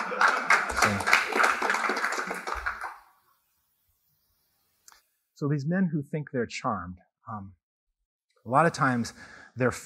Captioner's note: laughter